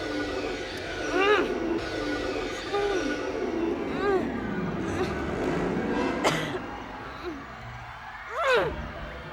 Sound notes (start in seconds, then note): 1.0 groans; 1.6 tense eerie music